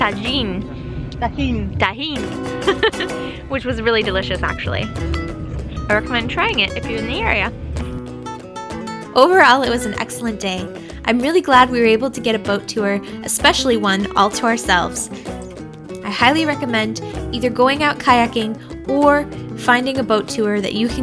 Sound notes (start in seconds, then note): 2.6 laughs